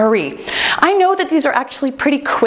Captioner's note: timer beeping